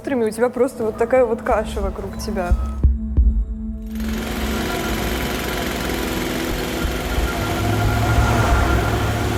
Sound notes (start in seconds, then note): 3.9 construction sounds